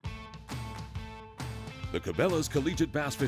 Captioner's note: voiceover